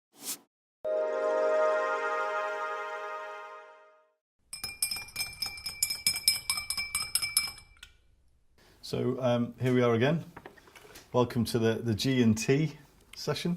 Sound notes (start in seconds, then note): 0.9 electronics chime; 4.5 glass clinks